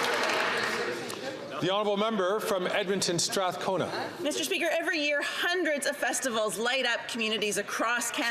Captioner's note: some Applause